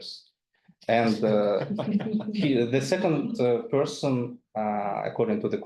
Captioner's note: attendees laughing